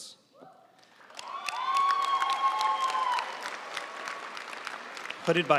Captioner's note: audience cheering and applauding